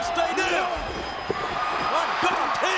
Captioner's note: audience cheers